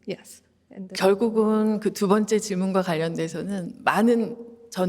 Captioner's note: speaking Korean